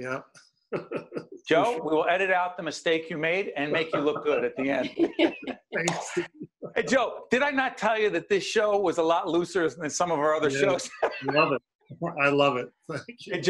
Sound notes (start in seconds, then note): 6.3 laughing